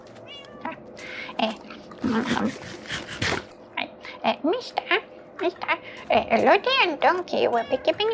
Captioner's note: munching sounds